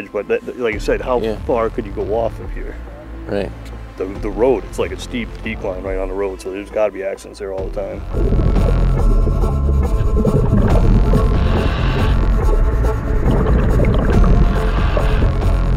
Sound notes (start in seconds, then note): 7.5 dramatic music; 8.0 water bubbling